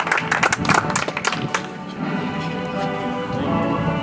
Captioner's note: audience applauds